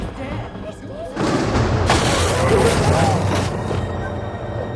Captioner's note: thunder